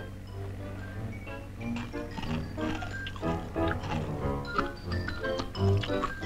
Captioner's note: pickle crunching